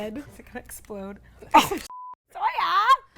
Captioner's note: beep